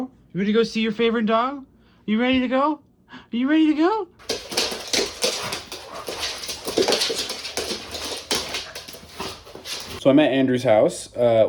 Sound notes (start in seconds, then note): 4.2 pitter patter of dog nails on hardwood floor